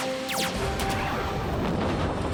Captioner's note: lasers fire